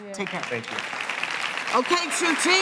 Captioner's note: applause